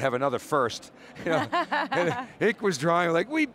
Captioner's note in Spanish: Risas